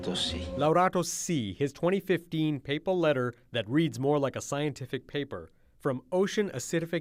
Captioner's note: speaking alternate language